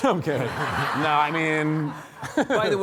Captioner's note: audience laughing